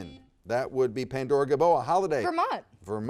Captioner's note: buzzer dings